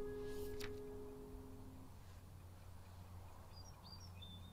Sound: bird chirping

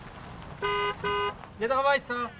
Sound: car horn sound

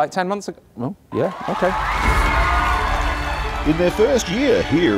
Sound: crowd cheering

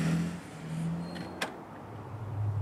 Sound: door opens

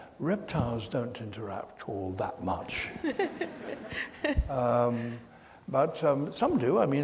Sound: audience laughs

